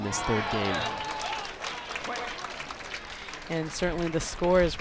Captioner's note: crowd applauds